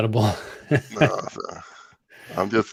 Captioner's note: laughs